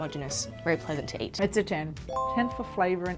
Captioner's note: bell chiming